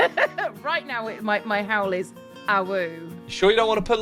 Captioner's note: laughs